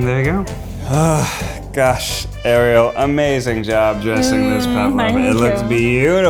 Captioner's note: sigh